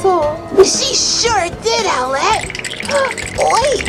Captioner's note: teeth chattering